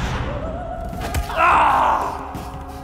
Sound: screams

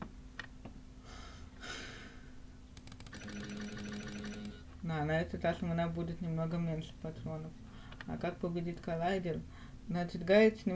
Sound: sighs; clicks

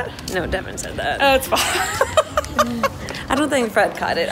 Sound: laughter

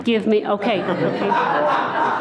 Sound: laughing

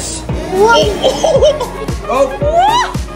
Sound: laughing; mom gasps

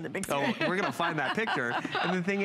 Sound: laughter

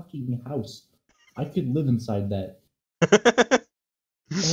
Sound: laughing

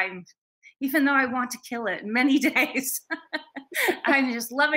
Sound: both laughing

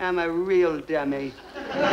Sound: audience laughs

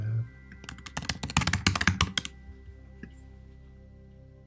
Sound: keyboard clicking

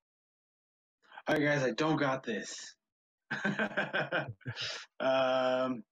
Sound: chuckling

